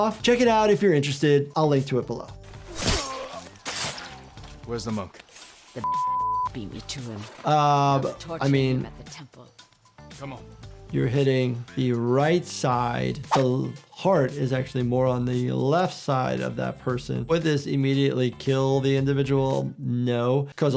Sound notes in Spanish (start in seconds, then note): 2.8 personaje gruñendo; 5.8 bips